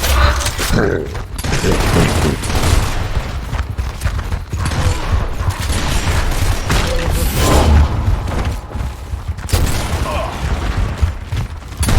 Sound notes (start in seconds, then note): 0.6 avatar laughing; 1.3 guns booming; 3.5 footsteps thumping; 4.6 guns booming; 5.5 guns clacking; 9.9 avatar grunting; 11.7 guns booming; 11.7 guns clacking